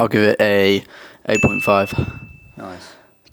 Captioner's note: bell dinging